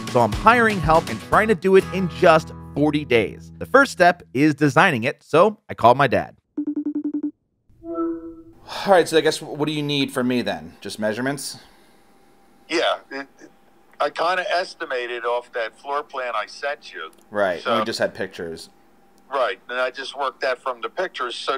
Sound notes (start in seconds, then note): 6.6 cell phone rings